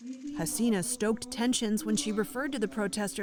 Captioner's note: voice-over